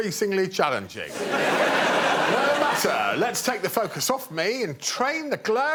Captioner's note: audience laughing